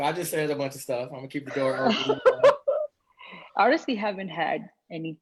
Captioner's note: group laughs